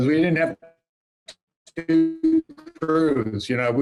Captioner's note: laughing